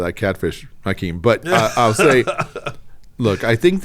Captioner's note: laughing